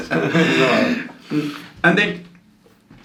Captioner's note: laughs